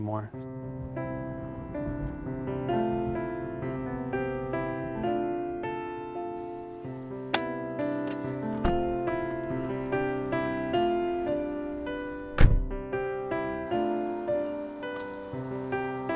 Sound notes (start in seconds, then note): 0.2 gentle piano music; 6.4 seatbelt clicks; 8.3 gentle piano music continues